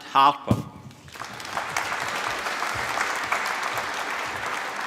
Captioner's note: applause